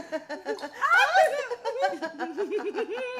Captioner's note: giggling